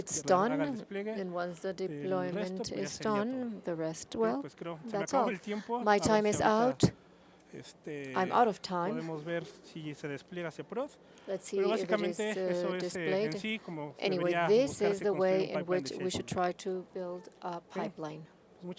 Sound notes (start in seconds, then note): 8.8 hablando inglés